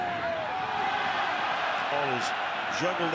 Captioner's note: cheers, applause